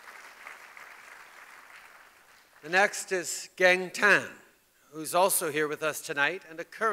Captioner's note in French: Applaudissements